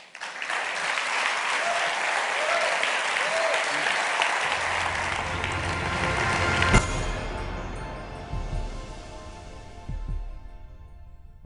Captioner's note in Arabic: تصفيق